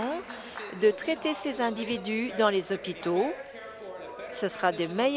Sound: applause

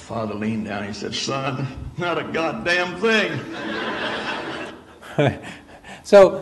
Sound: audience laughs; chuckles

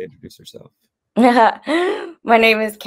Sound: laughs

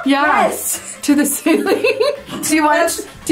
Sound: laughing

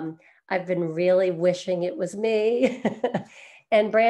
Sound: chuckles

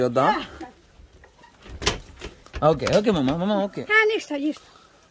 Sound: speaking in foreign language

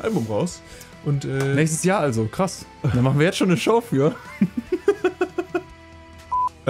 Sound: laughs

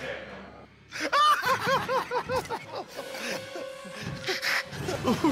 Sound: laughter

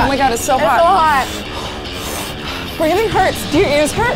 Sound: fast-paced rock music; gasping

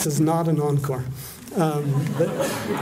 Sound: laughter

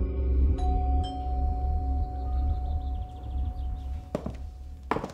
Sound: doorbell dinging

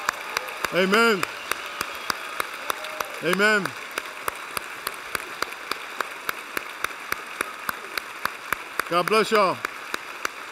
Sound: applause

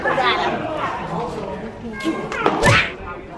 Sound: crowd noise

